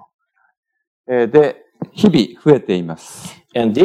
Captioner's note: speaking japanese